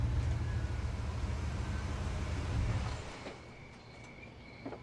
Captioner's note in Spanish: Ruido del vehículo